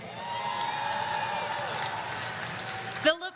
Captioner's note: audience cheering